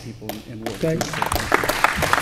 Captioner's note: applause